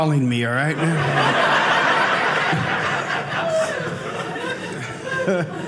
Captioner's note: audience laughing